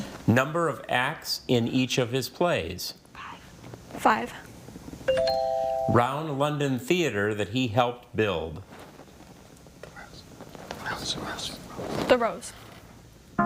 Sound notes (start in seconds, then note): 5.1 tone chimes; 13.2 tone clunks